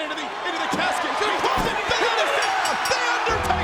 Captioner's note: bell rings